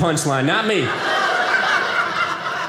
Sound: audience laughing

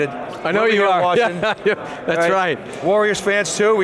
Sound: laughs

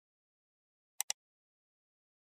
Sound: mouse Click

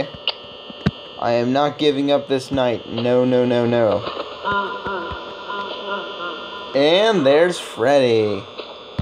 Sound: Freddy laughs

